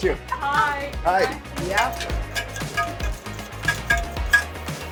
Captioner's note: stirring sounds